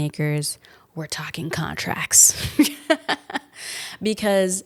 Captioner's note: laughs